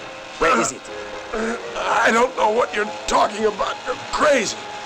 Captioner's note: grunting